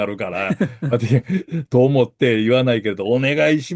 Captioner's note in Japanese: 笑い